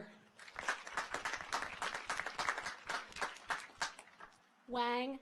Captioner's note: audience applauds